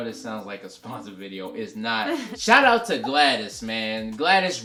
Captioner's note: laughs